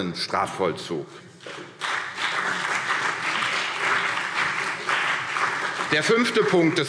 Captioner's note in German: Beifall